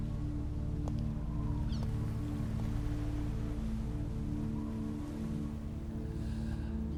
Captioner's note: wind Howling